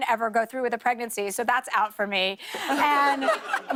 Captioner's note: laughter